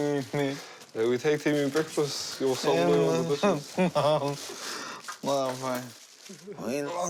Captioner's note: laughs